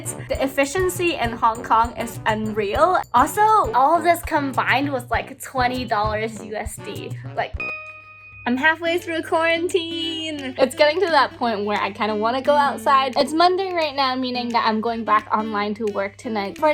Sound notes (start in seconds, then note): 7.6 dinging